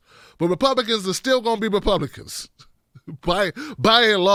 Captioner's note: laughs